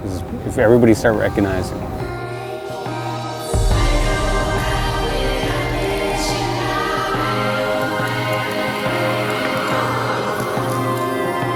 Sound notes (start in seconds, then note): 7.1 sirens